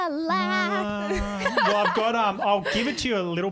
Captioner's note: hums